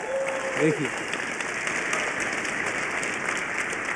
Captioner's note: applause